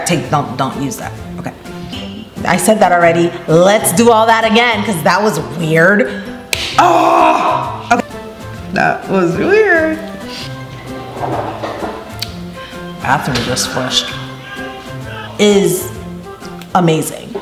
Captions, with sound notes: (upbeat music) Scrap tape don't use that. Okay. I said that already. Let's do all that again 'cause that was weird. Ah! That was weird. (quirky music) (toilet flushing) Bathroom just flushed. (children screaming) (quirky music) Is amazing.